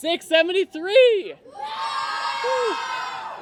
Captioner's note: cheers and applause